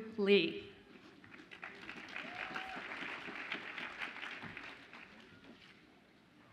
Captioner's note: audience applauds and cheers